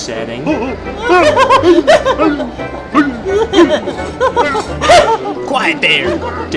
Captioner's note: the troublesome trucks making blab noises